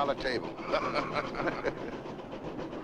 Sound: laughing

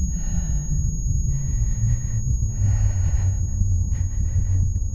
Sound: heartbeat, deep breathing

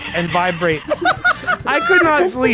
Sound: laughs

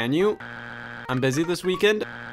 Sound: buzzer beeps

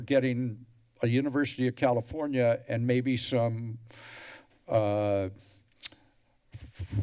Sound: tongue clicks

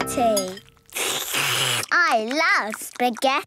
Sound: slurping

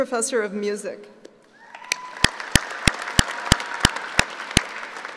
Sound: applauding

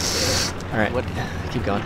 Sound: sniff

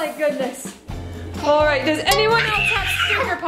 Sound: screams

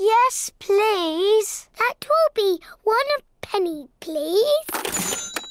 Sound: dings

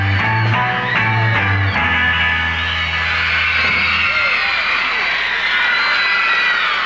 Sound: audience cheers

